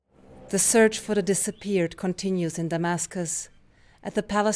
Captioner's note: voice-over